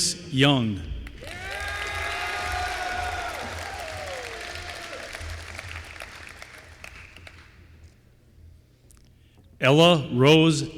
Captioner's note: applause